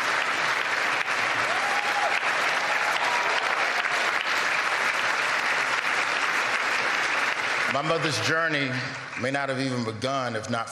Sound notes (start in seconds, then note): 5.1 applause